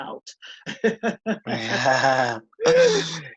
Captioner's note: laughter